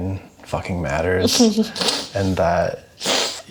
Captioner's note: chuckles